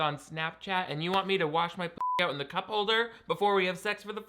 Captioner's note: beep